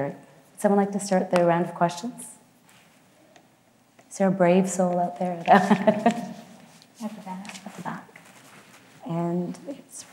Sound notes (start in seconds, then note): 5.5 laughs